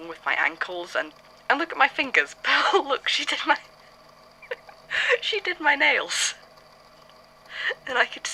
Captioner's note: laughs